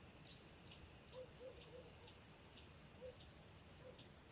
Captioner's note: bird chirping